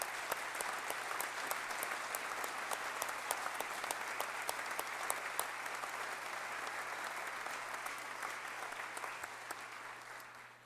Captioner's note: applause